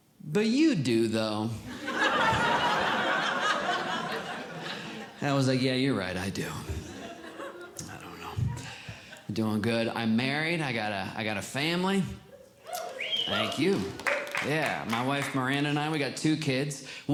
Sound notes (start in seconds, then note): 1.7 audience Laughing; 12.6 audience Cheering